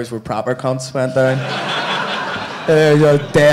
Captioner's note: audience laughing